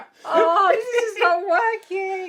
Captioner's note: laughs hysterically